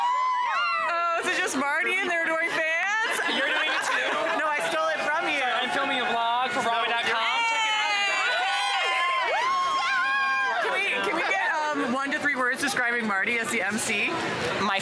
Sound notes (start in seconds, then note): 8.3 crowd cheering